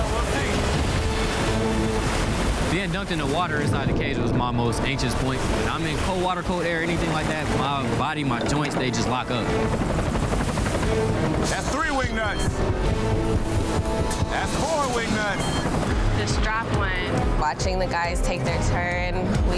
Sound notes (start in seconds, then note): 1.3 water rushing; 10.1 helicopter rotors thumping; 10.1 urgent music; 14.8 digital beeping